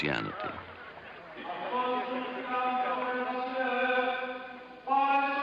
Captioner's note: man recites prayer over loudspeaker